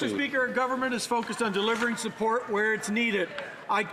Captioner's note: some Applause